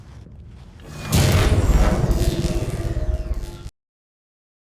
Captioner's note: machine shutting down